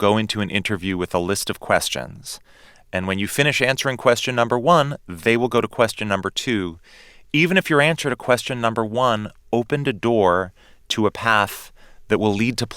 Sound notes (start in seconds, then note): none